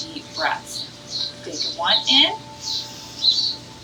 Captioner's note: bird chirps; uplifting ambient music